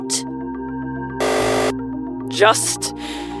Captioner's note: buzzer